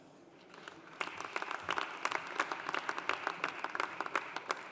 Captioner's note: audience applauding